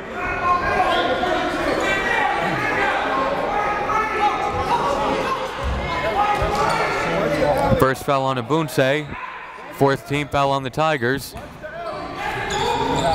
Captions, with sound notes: (crowd heckles and bustles) The first foul on Obunse. Fourth team foul on the Tigers.